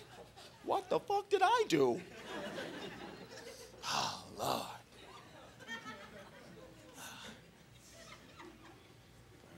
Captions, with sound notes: "What the fuck did I do?" Oh, lord. [crowd laughing]